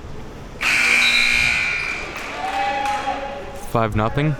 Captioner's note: buzzer buzzing